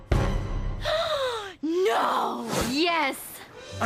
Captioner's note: gasp